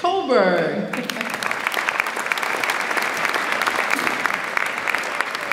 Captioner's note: audience applauds